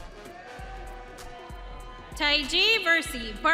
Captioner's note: audience cheering